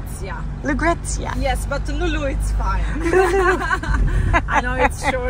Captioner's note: laughing